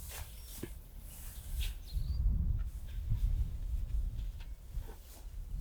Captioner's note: barrel shuffling